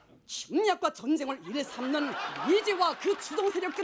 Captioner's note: speaking Korean stridently